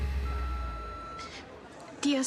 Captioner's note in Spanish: bip del contestador